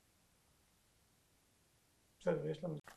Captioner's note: hebrew